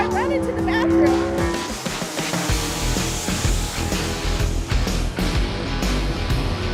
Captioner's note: engines revving; rock music